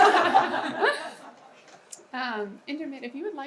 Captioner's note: audience laughs